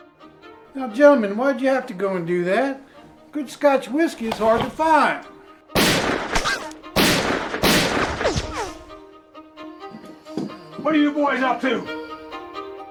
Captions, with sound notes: - Now gentlemen, why'd you have to go and do that? Good scotch whiskey is hard to find. (gunshots blasting) - What are you boys up to?